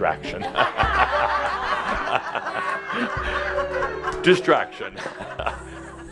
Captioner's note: lots of laughter